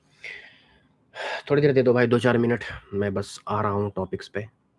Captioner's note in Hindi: गहरी सांस लेने की आवाज़